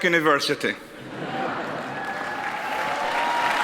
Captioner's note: audience laughs; audience applauds